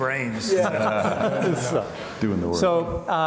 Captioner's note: laughs